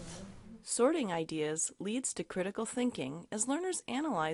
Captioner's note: voiceover